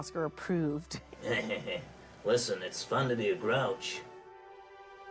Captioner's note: chuckles